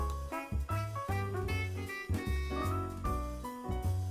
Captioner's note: rumbling